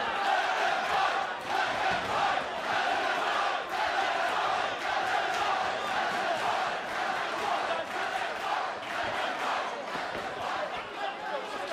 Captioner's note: fans chanting